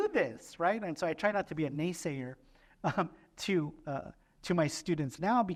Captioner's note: laughter